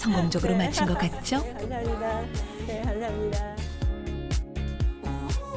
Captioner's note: voiceover